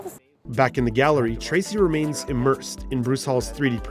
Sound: voiceover

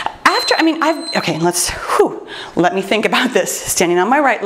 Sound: timer beeps; sighs

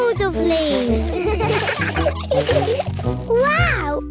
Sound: laughter

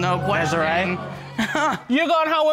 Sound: chuckles

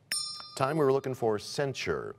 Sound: bell rings, time expires

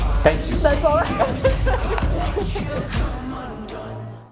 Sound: laughter

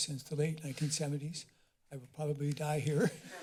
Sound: rustling sound; chuckles

